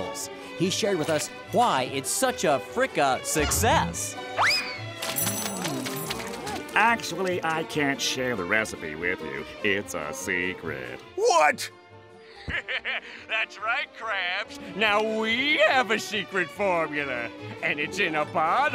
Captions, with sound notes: He shared with us why it's such a frica-success. Actually, I can't share the recipe with you. It's a secret. What?! [laughing] That's right Krabs. Now we have a secret formula and it's in a bottle